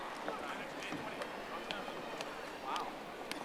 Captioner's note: audience applauding